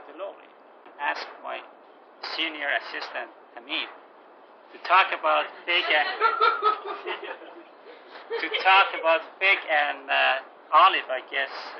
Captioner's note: gülüyorlar